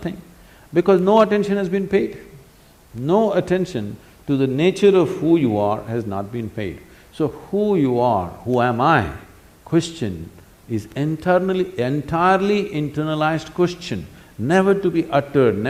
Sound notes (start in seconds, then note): none